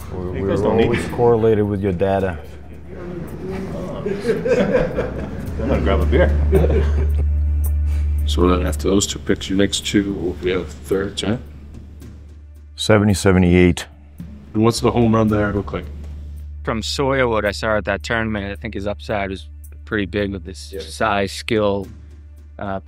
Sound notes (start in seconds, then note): 2.1 laughs